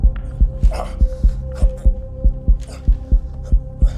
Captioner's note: grunt continues